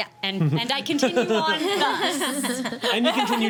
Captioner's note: laughing